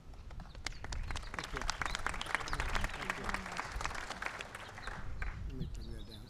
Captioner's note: applause